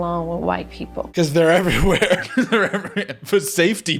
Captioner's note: laughing